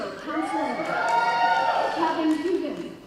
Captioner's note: cheering